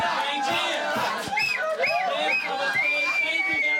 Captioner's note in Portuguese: assobiando